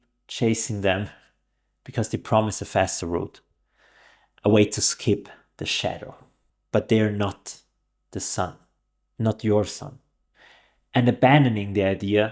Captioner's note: breathing